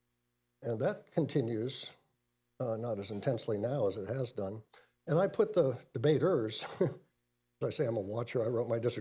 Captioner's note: laughs